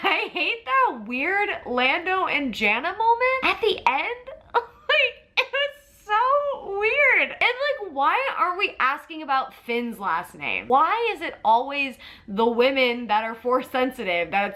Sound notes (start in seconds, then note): 4.7 laughs